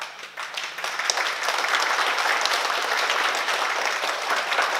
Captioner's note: oklaski